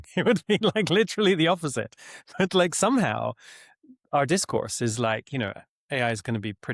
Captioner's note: chuckles